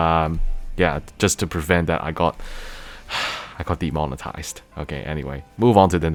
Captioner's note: sigh